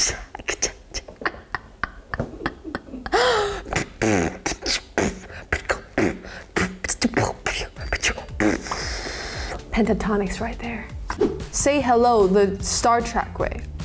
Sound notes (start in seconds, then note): 0.0 beatboxing; 0.0 images pop; 0.9 laughs; 3.2 inhales sharply; 3.4 beatboxing; 11.1 image whooshes